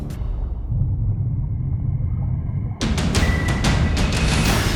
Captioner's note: underwater sounds